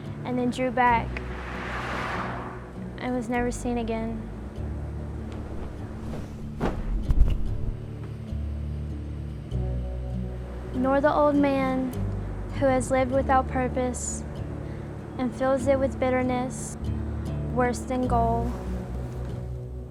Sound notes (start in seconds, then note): 5.2 sheet fluttering